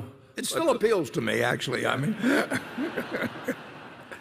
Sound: laughter

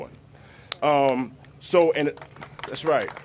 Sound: applause

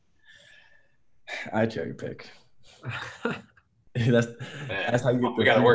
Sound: laughs

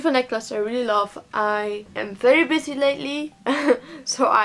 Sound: laughs

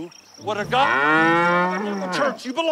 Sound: cow mooing

